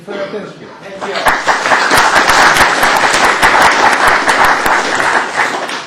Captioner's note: applause